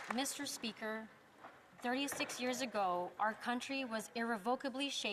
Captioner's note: applause